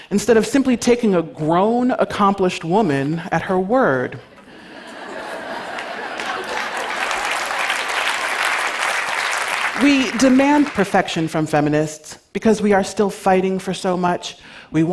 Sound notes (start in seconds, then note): 4.3 laughter; 7.1 applause